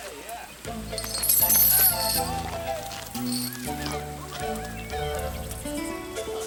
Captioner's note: gang members laugh and chatter; gentle music; chain rattles